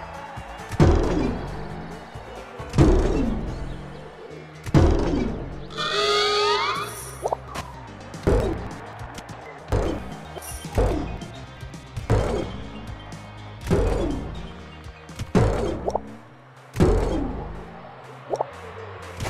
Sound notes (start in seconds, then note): 5.8 siren noise; 8.2 jump sound; 13.6 jump sound